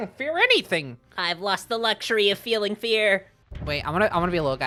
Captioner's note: Spongebob voice